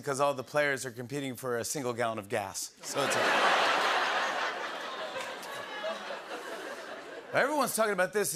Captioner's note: laughter